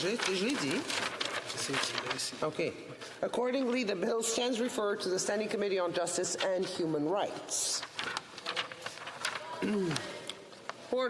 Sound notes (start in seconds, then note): 3.6 speaking French